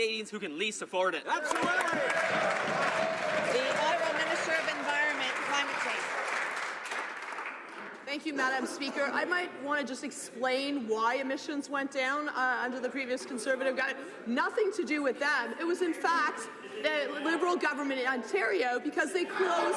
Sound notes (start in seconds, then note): 5.6 some Applause